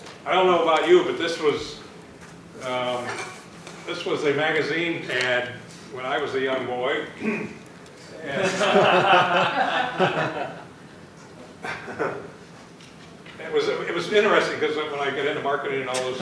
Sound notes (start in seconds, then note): 7.1 clears throat; 8.2 laughter